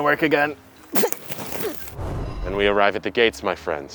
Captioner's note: cactus exerted grunting